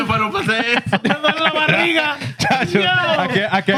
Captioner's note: speaking Spanish; laughter; speaking Spanish